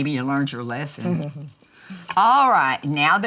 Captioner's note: Dory chuckles